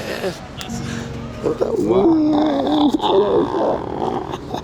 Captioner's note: laughing